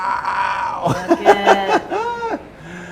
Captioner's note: laughs